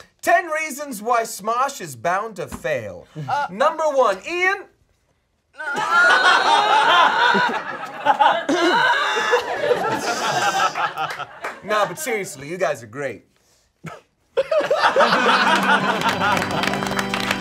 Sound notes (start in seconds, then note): 5.5 all exclaiming; 14.3 all laughing